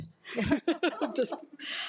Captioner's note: attendees laughing